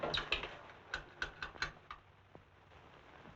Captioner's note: tapping Receiver